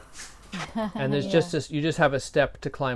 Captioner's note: laughter